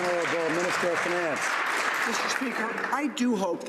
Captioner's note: some Applause